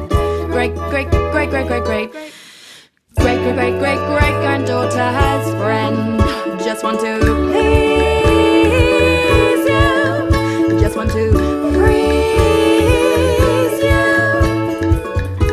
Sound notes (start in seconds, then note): 2.2 intake of breath